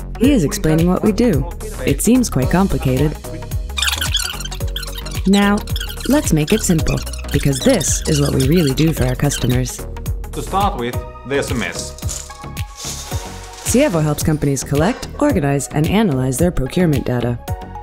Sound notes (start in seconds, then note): 3.6 squealing; 12.7 rattling